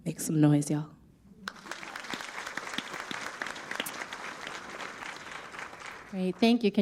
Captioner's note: audience applauds